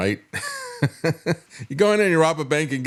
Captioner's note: laugh